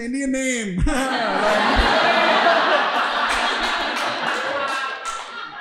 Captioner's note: audience laughing